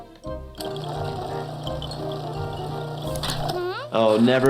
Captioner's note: blender whirring